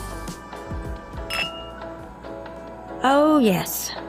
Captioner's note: bottles clank